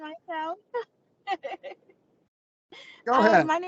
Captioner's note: laughs